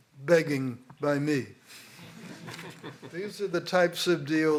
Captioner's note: laughter